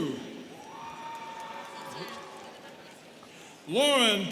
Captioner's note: students cheering